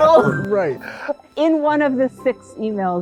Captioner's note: both laughing